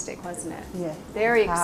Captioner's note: voiceover